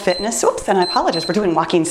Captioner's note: timer beeps